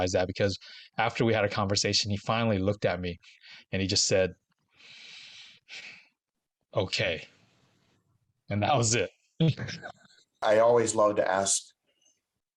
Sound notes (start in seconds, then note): 4.6 sighs